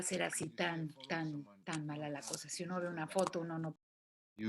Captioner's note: non-english speech